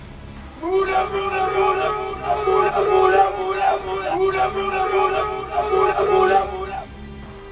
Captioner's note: fighting noises